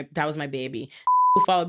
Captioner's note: beep